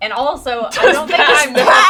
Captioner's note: laughing